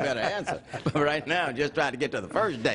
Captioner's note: laughter